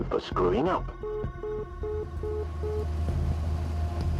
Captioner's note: phone bleeps